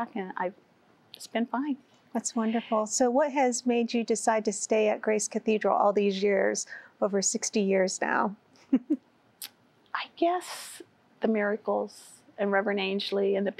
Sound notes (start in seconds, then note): 8.6 giggling